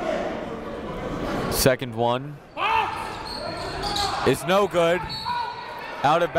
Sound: whistle blows

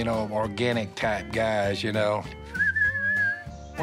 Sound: whistles

